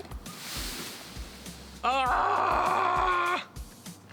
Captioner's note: yells